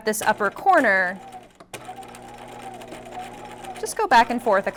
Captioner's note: sewing machine whirring